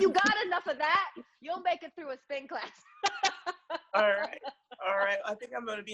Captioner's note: laughs